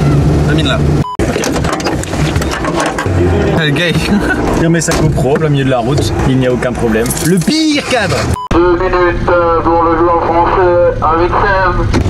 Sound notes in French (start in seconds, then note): 3.8 rires